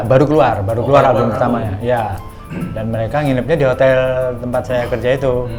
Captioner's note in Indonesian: berdehem